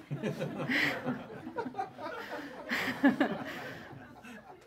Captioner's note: audience laughs